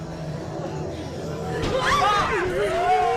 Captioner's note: shrieks; moans